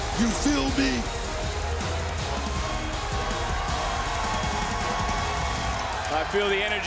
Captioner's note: crowd cheers